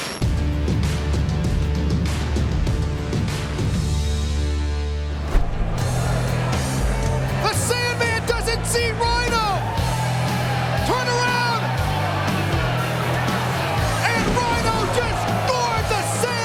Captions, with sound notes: (upbeat music) (upbeat music) (crowd cheering) The Sandman doesn't see Rhyno. Turn around. And Rhyno just Gored the Sandman.